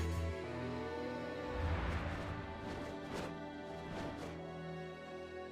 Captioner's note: whooshing noises